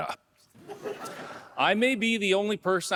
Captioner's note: audience laughing